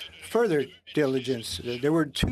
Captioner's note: speaking French